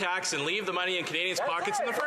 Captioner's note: some Applause